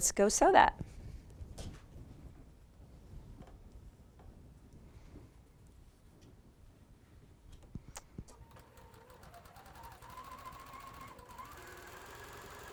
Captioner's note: sewing